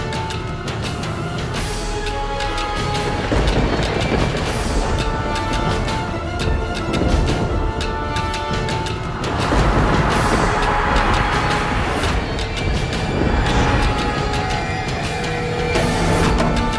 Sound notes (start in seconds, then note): 3.2 thundering; 9.2 thundering